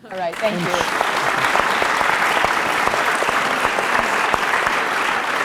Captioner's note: applause